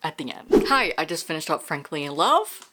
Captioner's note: whoosh